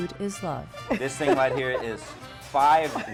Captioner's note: lady laughing